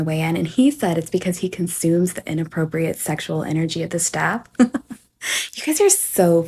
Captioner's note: laughs